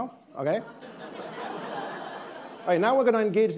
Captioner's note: attendees laughing